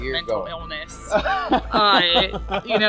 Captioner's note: laughs cheerfully